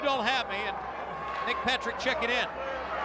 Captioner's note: crowd chatter